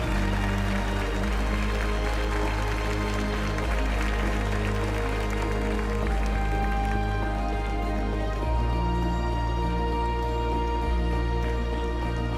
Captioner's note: applause